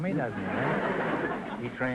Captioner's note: audience laughter